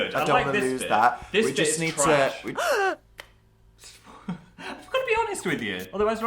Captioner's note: gasp